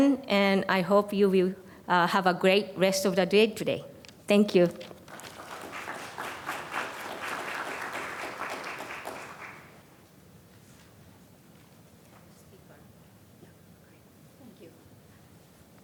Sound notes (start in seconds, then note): 9.3 applause